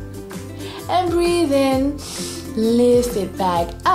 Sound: breathes in deeply

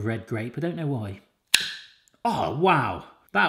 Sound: snap

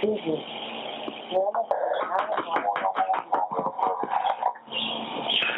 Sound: laughing

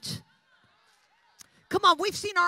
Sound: audience chattering

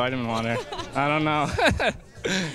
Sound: laughing

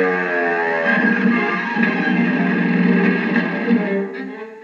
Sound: sputtering

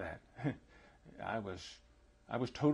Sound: laughs

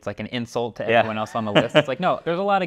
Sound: laughs

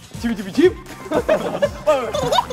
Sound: kekekekeke

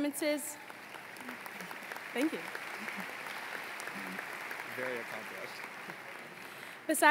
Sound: applause

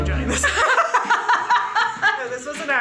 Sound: women laughing

